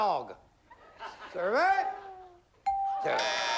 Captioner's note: buzzer